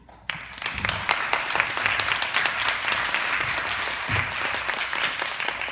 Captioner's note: applause